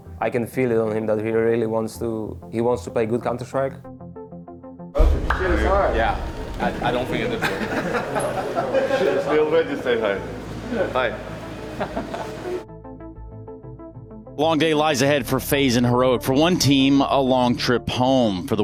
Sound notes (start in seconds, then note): 7.6 group laughing; 8.6 people chattering indistinctly; 11.8 person laughing; 12.0 gentle music